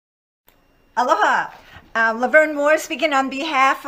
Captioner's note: speaks in a foreign language